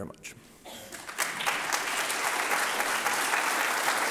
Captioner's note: applause